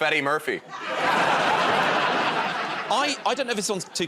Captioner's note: laughter